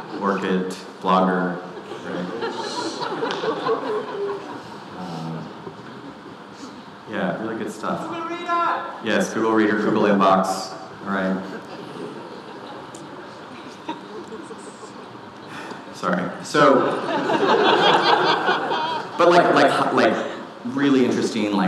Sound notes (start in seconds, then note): 1.5 audience laughing; 11.1 audience laughing; 15.4 sighs; 16.6 audience laughing